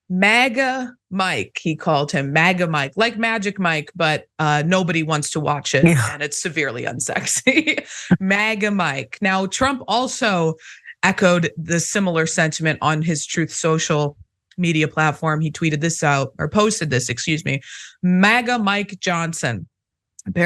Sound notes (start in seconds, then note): 5.8 laugh